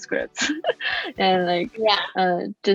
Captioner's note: laughs